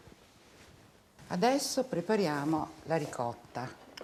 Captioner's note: speaking Italian